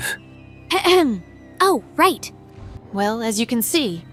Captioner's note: ahem